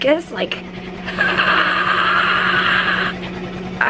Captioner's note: rattly breathing